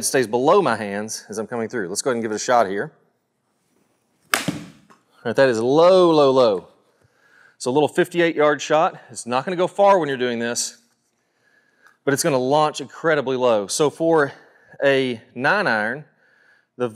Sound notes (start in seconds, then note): 4.2 golf ball cracks